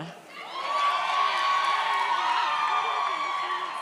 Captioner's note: audience cheers